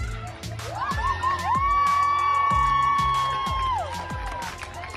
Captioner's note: crowd cheering